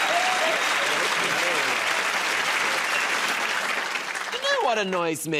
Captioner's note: cheers and applause